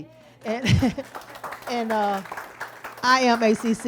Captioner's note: audience applauds; speaker chuckles